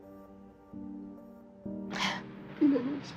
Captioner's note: sobbing